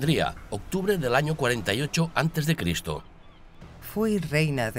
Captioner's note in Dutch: vogels krijsen